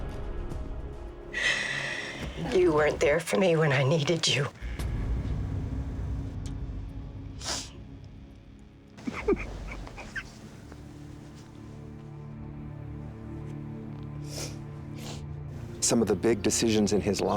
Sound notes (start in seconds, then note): 6.5 sniffs; 9.0 crying